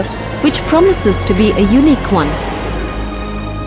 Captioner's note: car engine revving